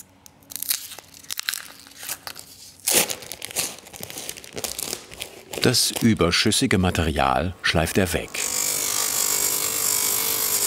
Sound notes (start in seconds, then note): 8.3 loud grinding